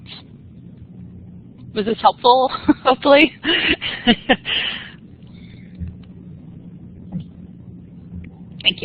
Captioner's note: laughter